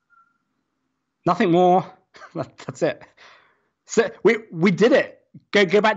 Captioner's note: chuckles